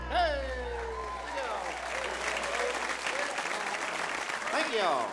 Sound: audience cheers

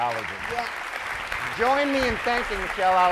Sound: audience applauds

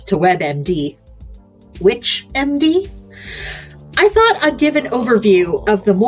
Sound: groans

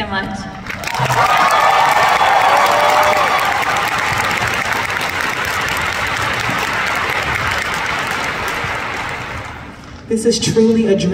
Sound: applause

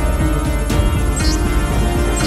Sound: alphabet displayed sound

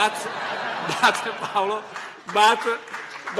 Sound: laughter

